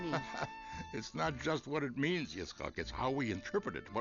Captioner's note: laughs